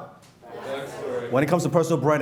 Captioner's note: crowd